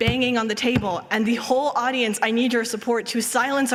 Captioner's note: banging